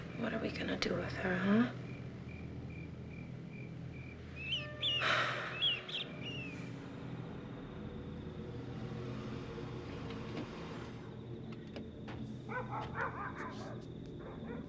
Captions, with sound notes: What are we gonna do with her, huh? (exhaling) (car door opening)